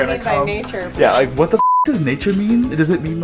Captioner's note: beep